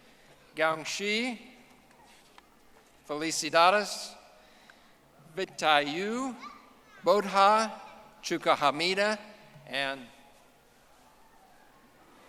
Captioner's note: speaking in foreign language